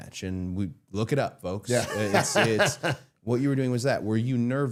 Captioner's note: laughing